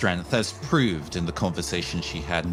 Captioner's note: none